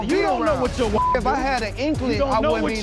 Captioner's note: beep